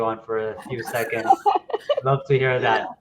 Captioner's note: laughing